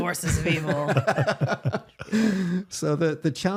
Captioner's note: laughing